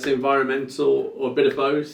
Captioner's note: hands clapping